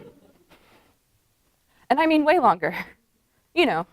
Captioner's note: laughter